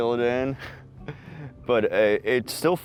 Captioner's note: chuckles